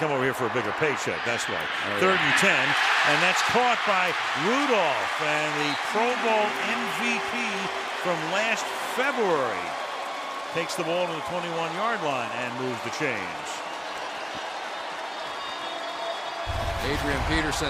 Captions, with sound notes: And he left to come over here for a bigger paycheck, that's why. Third and 10. And that's caught by Rudolph. And the Pro Bowl MVP from last February takes the ball to the 21-yard line and move the chains. [cheering]